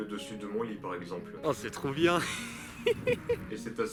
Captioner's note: laughs